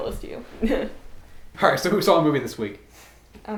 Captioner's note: Allison chuckles